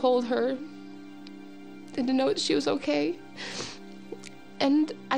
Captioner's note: sniffles